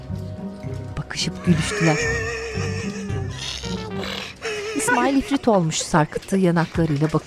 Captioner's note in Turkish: Gülme sesi